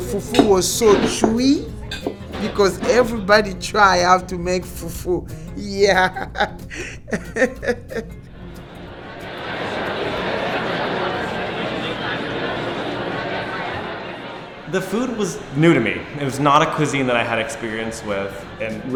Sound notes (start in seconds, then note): 6.3 laughing; 8.4 crowd talking